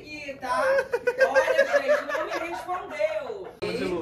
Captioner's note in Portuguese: risos